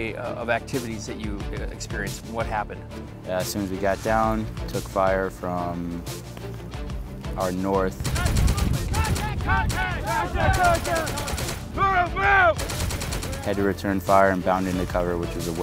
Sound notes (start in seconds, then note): 8.0 guns rapidly firing